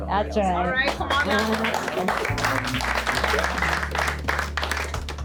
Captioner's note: clapping